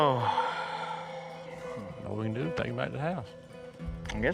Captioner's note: sighs